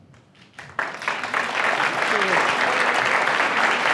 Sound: applause

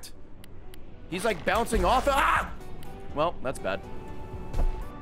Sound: screams

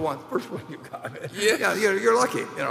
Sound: laughs

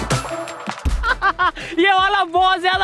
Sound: laughing

